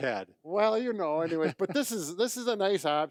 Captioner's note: chuckling